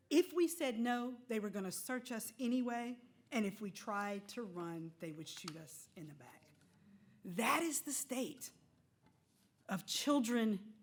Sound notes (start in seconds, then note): none